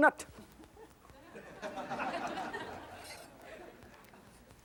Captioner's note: audience laughing